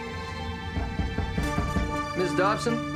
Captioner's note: suspenseful music; knocking on door